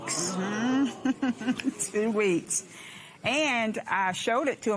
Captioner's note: laughs